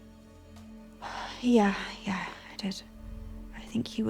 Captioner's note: sighs